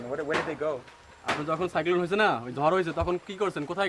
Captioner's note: speaks bengali